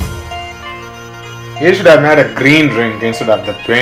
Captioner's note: ha ha ha